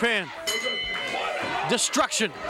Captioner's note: bell rings